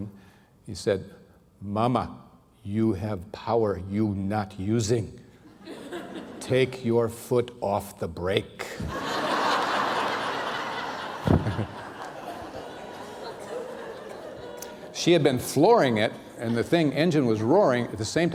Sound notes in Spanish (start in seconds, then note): 8.8 risas